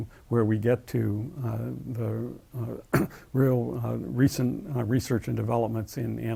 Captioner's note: cough